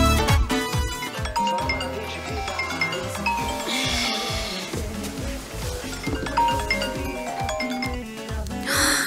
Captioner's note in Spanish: Alarma